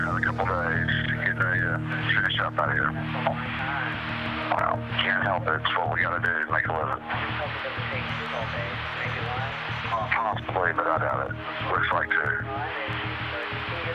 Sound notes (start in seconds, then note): 3.2 on phone; 7.3 on phone; 9.9 on phone; 12.8 on phone